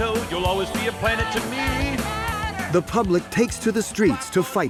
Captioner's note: chanting